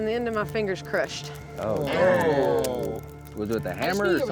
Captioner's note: all groaning